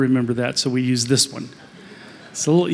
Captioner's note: laughter